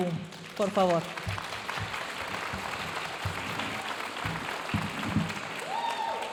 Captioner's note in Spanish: aplausos de la audiencia